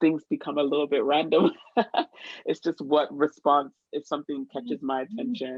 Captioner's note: laughter